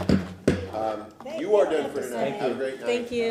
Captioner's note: sounding gavel